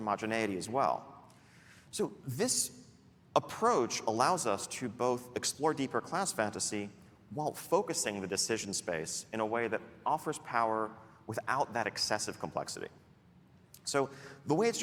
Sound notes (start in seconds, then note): none